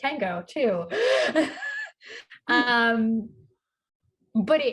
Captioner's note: laughs